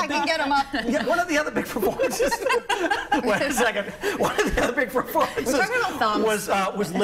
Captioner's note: laughter